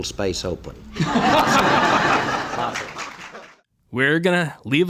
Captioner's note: crowd laughing